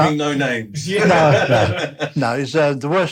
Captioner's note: laughter